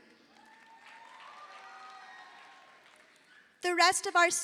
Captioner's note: audience applauding